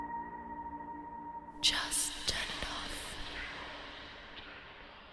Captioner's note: echoes